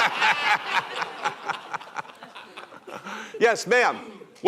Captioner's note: laughter